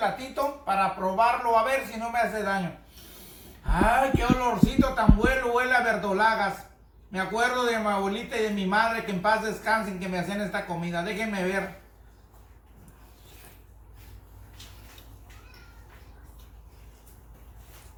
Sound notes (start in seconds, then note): 2.8 sniff; 3.6 heartbeat accelerates